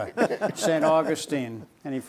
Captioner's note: laughing